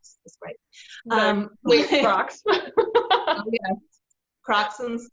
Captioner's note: laughs